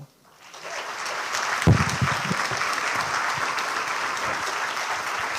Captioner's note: applause